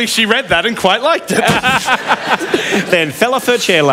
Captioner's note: laughs